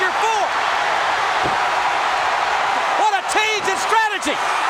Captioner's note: audience cheering